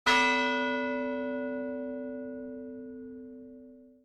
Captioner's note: bell gongs